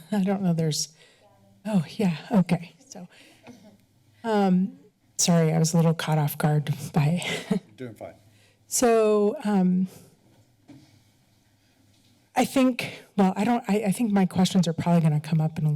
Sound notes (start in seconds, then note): 7.2 chuckles